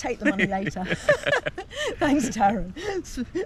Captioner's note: chuckling